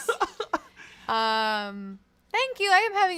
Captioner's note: laughs